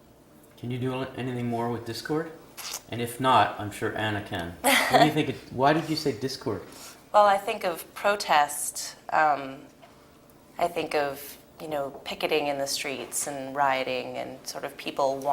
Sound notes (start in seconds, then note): 4.7 laugh